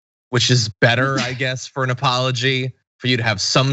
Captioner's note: laugh